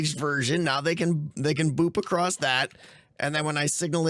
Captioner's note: none